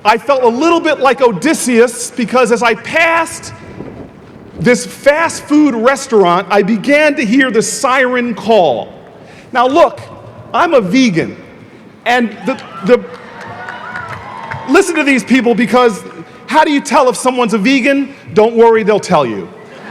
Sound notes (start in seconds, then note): 12.4 audience applauding